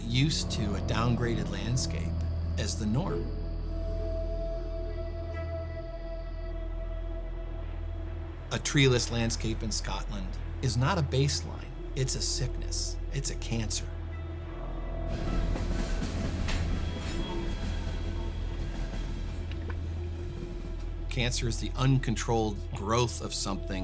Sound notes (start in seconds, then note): 15.2 train rails clanking